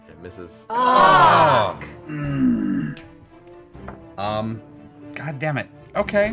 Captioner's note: all groan